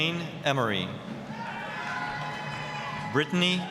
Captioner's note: applause, cheering